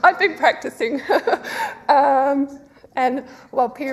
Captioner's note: laughs